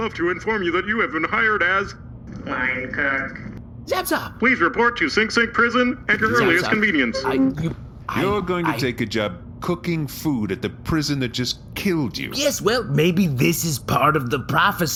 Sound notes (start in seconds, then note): 4.0 happily; 6.7 file playback end sound